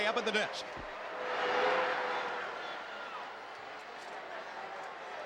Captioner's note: crowd jeering